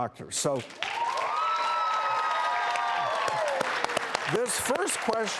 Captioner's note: clapping and cheering